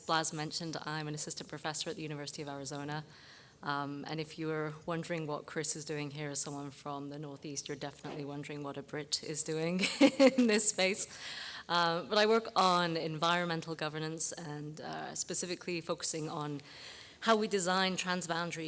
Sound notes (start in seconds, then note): 10.4 laugh